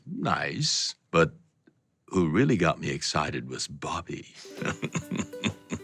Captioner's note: laughs